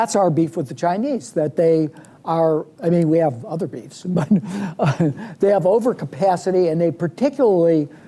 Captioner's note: laughs